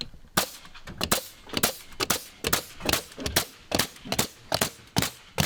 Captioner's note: nail gun popping